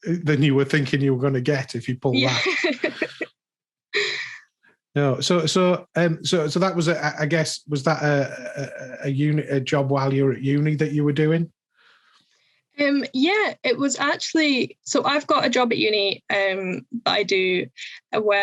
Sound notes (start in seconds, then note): 2.1 laughs